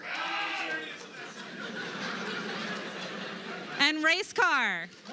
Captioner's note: cheers; laughter; applause